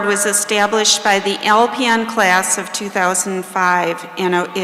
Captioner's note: none